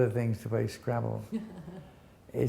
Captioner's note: laughs